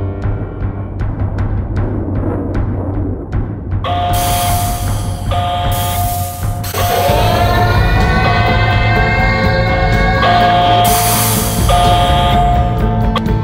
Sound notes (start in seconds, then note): 3.8 siren Begins; 12.5 siren Ends